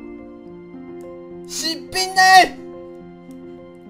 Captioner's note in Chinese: 台語